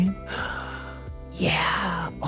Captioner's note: gasps